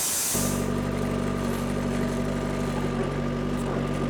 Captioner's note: forklift rumbles